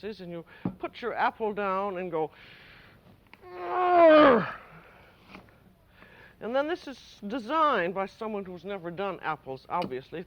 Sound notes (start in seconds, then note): 3.4 grunts